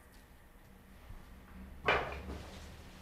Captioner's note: clatter